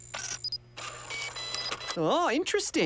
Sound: beeping

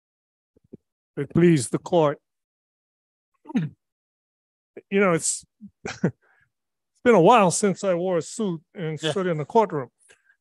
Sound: he chuckles

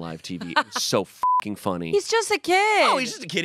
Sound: beep

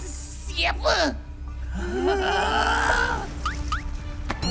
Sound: both whimper

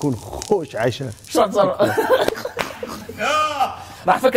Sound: laughs

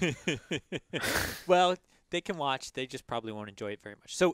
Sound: laugh

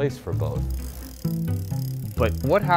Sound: wheels turning

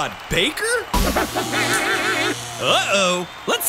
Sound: robot laugh

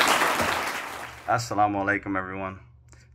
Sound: audience applauding; speaks in Arabic

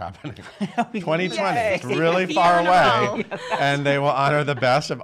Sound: laughing

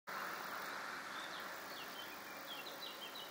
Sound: car noise, birdsong; birdsong

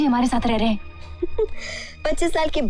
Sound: chuckles

